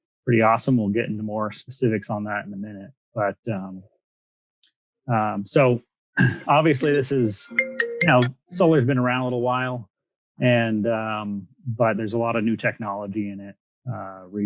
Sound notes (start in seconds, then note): 6.2 clears throat; 7.4 mobile phone ringing